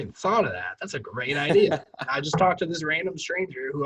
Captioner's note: laughs